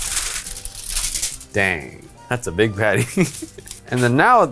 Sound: chuckles

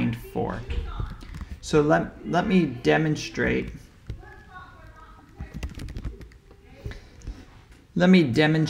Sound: keyboard typing sound

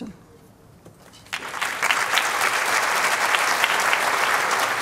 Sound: applause

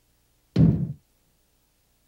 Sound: thud

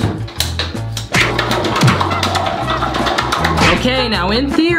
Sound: sloshing sounds

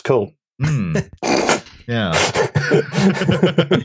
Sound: laughter

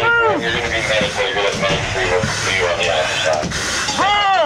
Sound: radio chatter

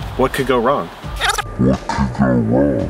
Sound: video skipping sound

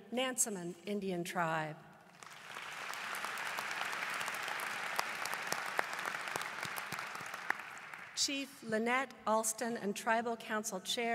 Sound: applause

